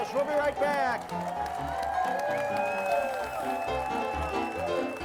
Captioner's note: crowd cheers